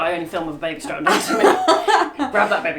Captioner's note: laughs